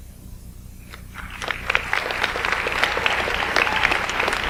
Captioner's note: audience applauds